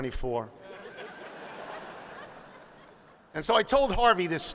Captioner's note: laughing